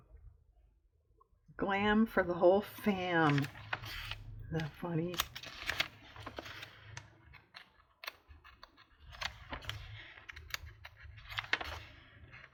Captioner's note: sarcastically